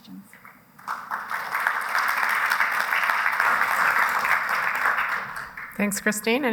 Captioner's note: applause